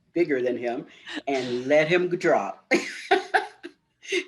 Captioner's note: laughter